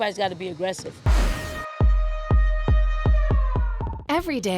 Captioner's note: siren